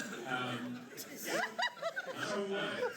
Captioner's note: laughter